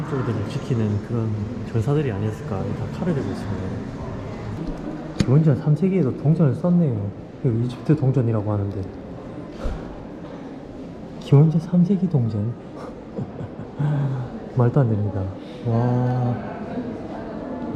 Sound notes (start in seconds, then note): 12.7 laughing